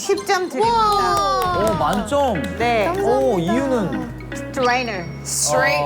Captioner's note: a seal-clap